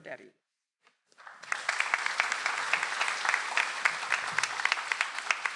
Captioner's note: audience applauds